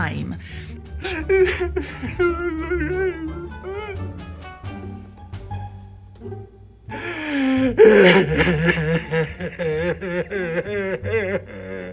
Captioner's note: more crying